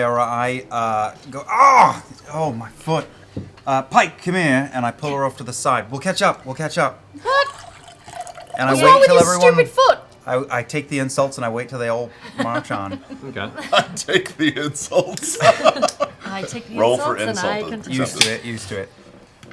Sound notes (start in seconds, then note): 12.3 laughing